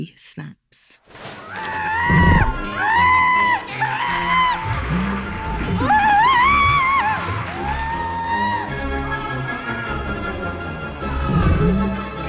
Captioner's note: screaming